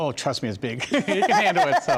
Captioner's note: laughs